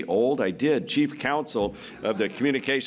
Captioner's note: laughter